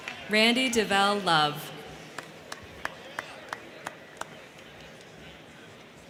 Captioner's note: crowd cheering